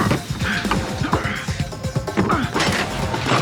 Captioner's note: grunts